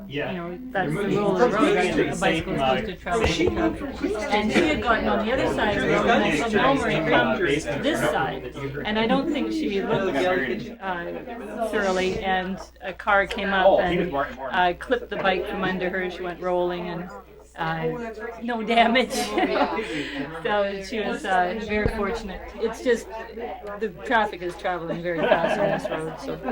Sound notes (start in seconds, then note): 18.7 laughs